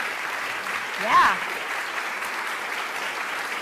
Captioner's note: applause